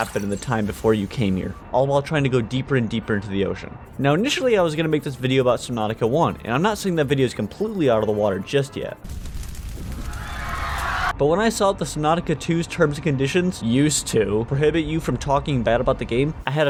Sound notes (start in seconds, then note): 10.0 screams of the damned